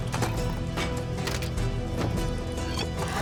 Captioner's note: thunk; click